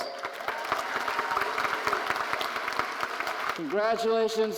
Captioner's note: audience applauding